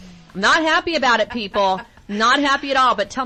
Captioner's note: laughing